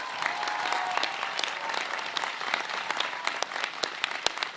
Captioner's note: applause